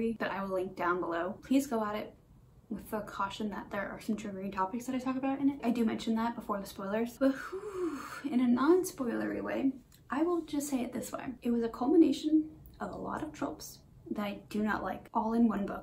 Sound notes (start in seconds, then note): 7.4 long sigh